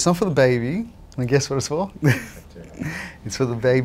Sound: chuckles

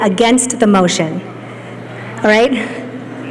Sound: laughter

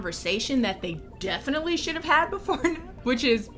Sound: laughs

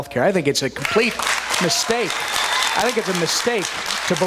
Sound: cheers, applause

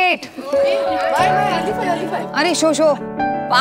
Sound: women murmuring

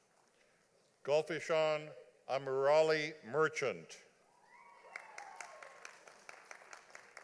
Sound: audience applauding

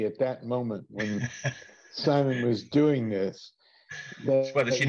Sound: laughs

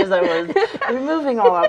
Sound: laughing

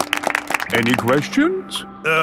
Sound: all clapping

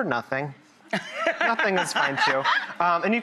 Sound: laughter

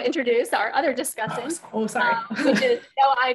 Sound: laughs

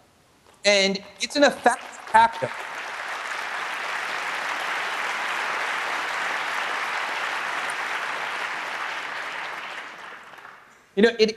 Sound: applause

